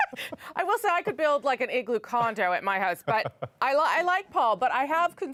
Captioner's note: laughter